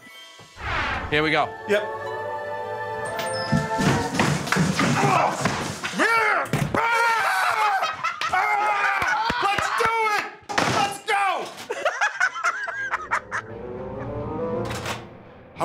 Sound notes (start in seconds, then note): 4.7 grunting; 7.4 laughter; 11.6 laughter